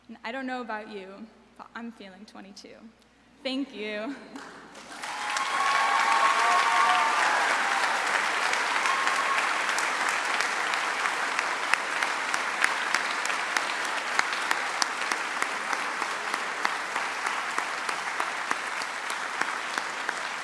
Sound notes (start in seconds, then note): 4.9 audience applauds; 4.9 audience cheers